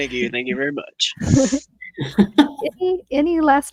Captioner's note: participants laughing